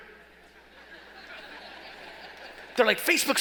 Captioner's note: laughing